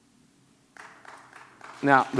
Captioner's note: audience clapping